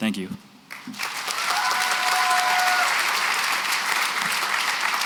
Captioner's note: applause